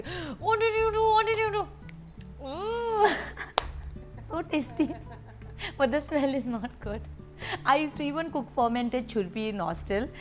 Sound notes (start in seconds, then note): 7.1 laughs